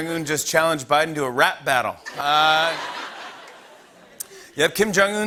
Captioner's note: laughter